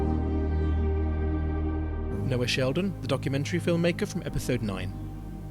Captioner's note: voiceover